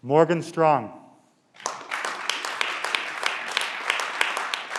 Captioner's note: clapping